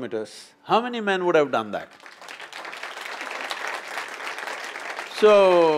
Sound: applause

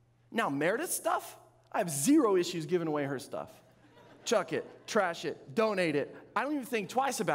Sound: audience laughing

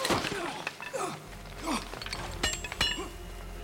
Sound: grunting

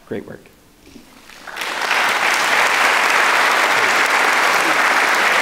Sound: audience clapping

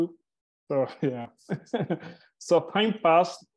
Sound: chuckles

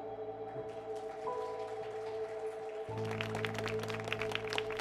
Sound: audience applauds

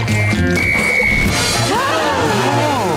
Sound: gasping

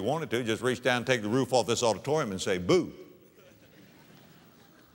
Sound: audience laughter

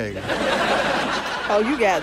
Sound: laughter

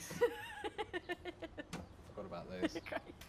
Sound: laughing

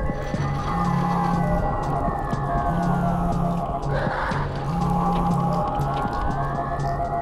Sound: phone vibration

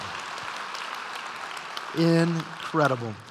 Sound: applause

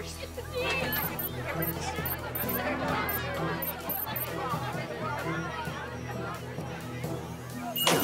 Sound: chattering

